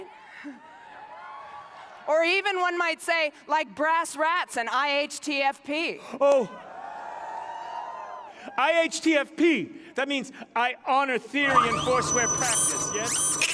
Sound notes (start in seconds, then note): 0.0 cheering; 6.4 cheering